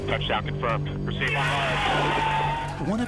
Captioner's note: cheering, applause